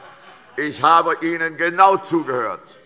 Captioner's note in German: Vereinzeltes Lachen CDU und BÜNDNIS 90/DIE GRÜNEN - Zurufe AfD